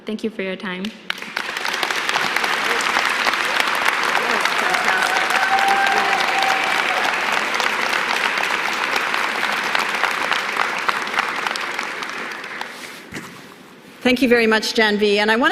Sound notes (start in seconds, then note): 7.2 applause